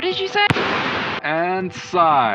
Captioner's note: boom